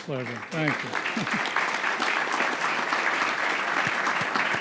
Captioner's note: crowd applauding